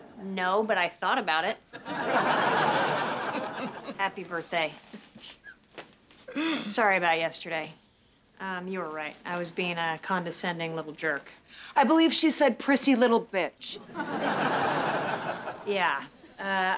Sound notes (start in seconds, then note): 1.8 chuckles